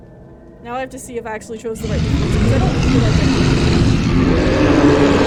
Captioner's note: monster Growling; monster Growling and Yowling